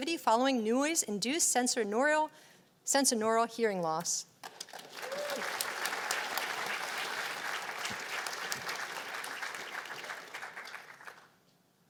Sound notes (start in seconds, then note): 4.7 cheers and applause